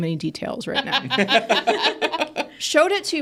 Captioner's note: participants laughing